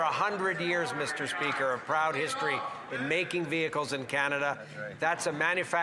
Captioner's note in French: voix de l'interprète